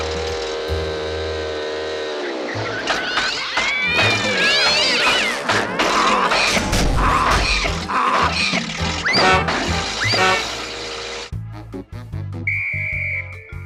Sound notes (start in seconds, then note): 0.0 motor whirs; 2.1 motor meows and hisses; 8.6 motor sputters; 12.4 whistle blows